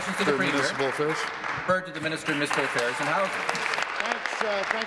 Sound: applause

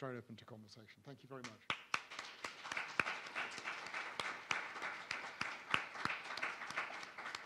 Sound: audience applauds

